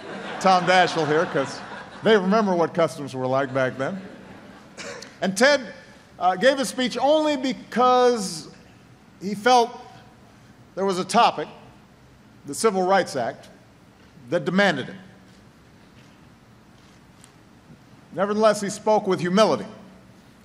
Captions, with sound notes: because they remember what customs were like back then. (Laughter.) And Ted gave a speech only because he felt there was a topic -- the Civil Rights Act -- that demanded it. Nevertheless, he spoke with humility, aware, as he put it, that “a